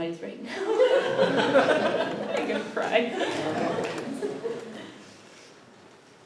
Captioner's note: laughter